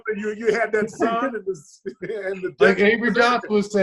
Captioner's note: laughs